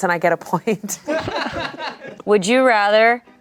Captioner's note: everyone laughs